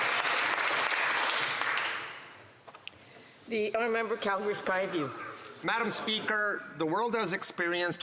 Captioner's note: some Applause